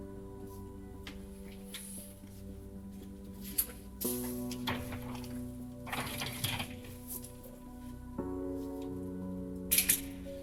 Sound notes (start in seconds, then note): 1.2 gentle music continues; 5.8 trash can wheels clanking; 7.6 gentle music